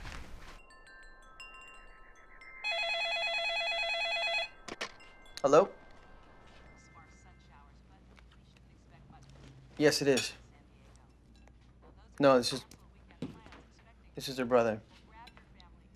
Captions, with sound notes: (Windchime) (phone ringing) (phone picked up) man: "Hello?" "yes it is." "No.. It's just.." "This is her brother."